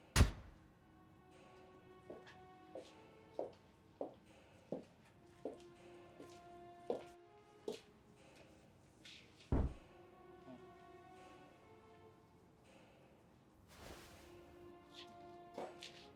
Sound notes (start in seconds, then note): 0.1 light flicking; 3.0 steps plodding; 13.5 light music